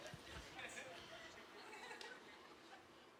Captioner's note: laughing